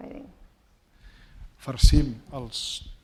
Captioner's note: speaking spanish